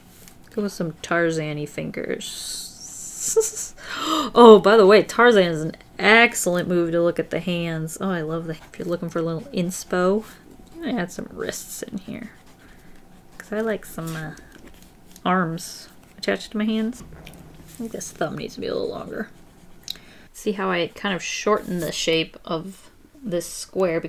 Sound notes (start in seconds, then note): 3.0 laughs; 3.8 gasps